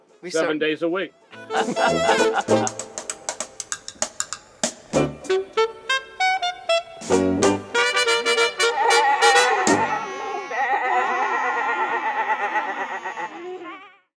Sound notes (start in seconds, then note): 1.4 laughs; 4.7 upbeat music; 8.5 children bleating like a goat